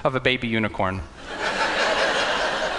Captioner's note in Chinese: 笑聲